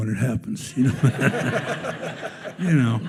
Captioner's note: attendees laughing